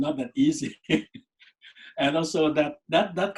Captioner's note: laughs